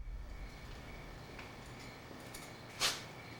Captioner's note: cricket sounds